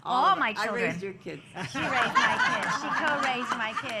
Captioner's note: laughter